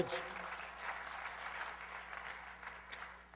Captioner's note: applause